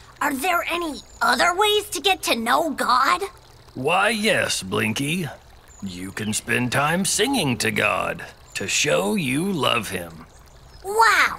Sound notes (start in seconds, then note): none